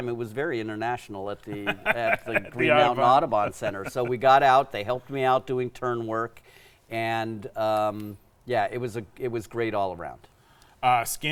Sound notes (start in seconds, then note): 1.5 laughs